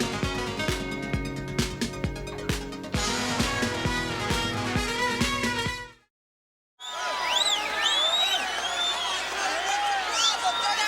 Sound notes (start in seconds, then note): 6.8 crowd cheering